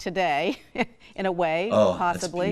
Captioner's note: laughs